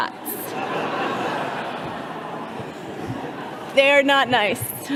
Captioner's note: all laughing